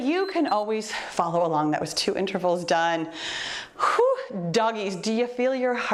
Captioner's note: timer beeps